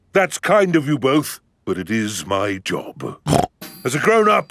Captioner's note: snorts